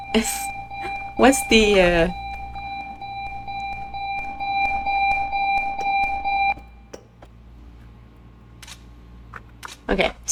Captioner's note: alarm beeping; alarm silenced